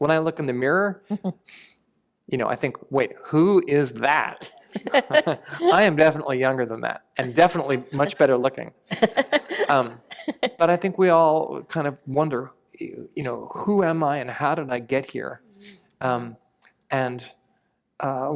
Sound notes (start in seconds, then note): 8.9 laughter